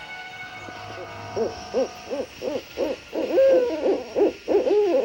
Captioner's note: owls hooting